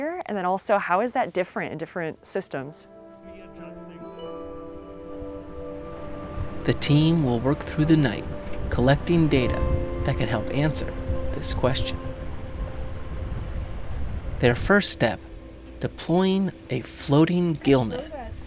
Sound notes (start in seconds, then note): 3.3 people chattering; 3.8 gentle music